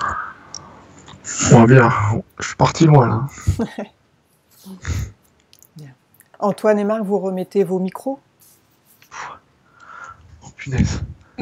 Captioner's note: laughs